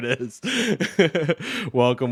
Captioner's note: laughs